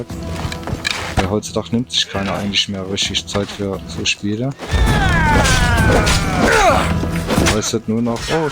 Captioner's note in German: schreien